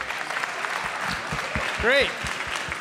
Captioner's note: applause